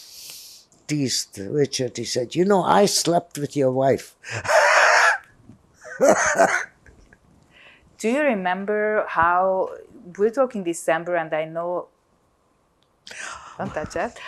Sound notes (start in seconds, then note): 4.2 laughing